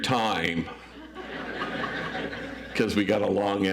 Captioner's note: audience laughs